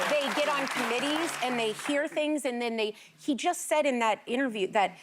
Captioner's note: applause